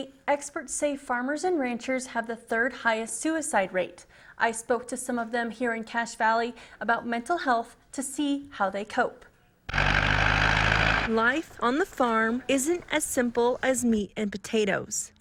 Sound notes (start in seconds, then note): 9.7 tractor engine revs